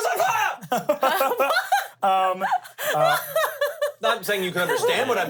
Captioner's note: everyone laughs